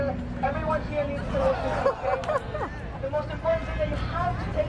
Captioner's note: crowd gasping; woman laughing